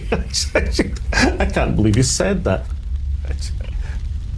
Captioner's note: laughing